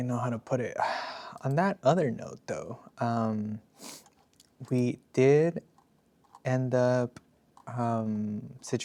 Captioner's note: snorts